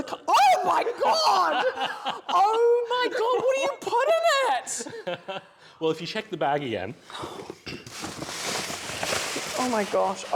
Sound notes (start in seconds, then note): 7.3 more paper rustling